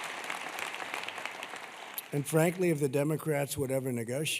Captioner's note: applause